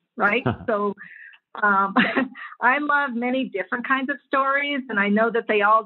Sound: laugh

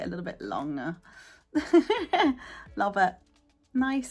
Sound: laughing

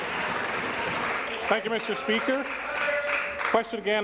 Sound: applause

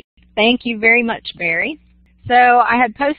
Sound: voiceover

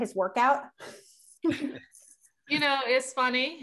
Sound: laughter

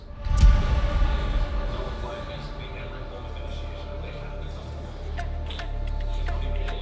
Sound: tense music; players chattering

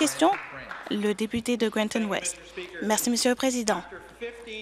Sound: applause

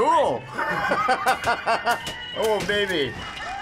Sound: chuckling

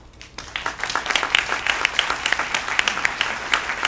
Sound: applause

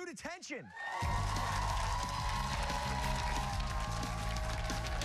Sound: cheers and applause

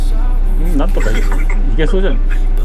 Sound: laughs

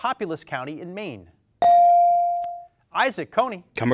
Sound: bell dings

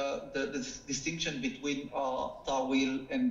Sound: speaking foreign language

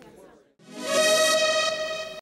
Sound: logo reverberating

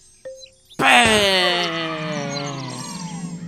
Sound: children cheering

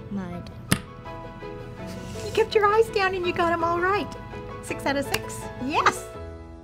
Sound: pounds fist

